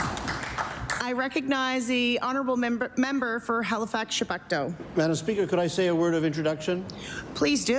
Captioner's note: applause